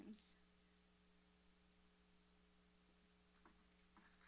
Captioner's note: applauding